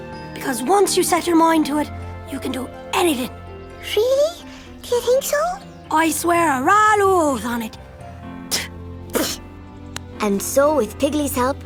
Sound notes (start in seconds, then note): 9.0 spitting